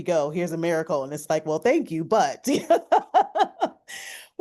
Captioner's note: laughs